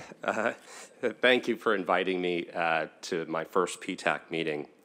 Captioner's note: laughter